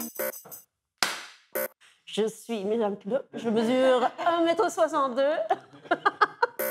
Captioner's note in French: rires